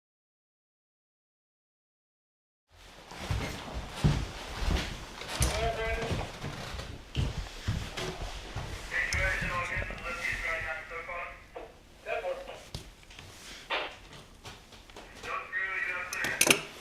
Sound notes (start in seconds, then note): 9.6 background voices on communications radio; 15.0 background voices inside the room